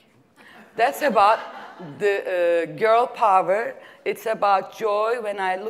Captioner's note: laugh